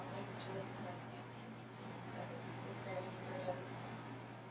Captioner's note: speaking softly